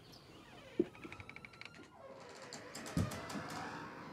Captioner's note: door creaking